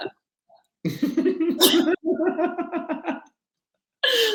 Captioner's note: laughing